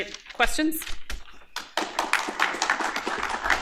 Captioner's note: applause